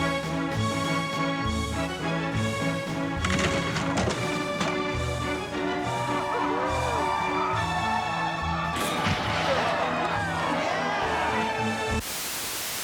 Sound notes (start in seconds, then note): 6.7 <i> cheering</i>